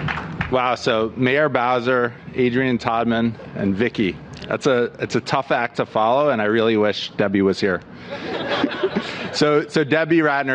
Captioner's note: applause